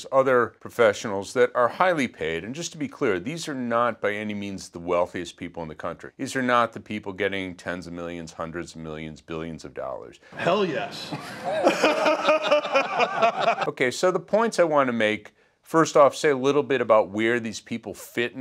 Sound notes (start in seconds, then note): 10.9 laughing